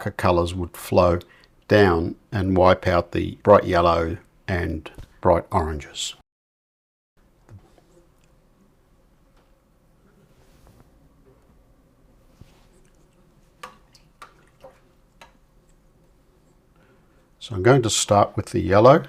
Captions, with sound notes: colors would flow down and wipe out the bright yellow and bright oranges. [silence] So I'm going to start with the yellow.